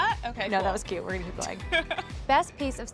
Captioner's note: laughs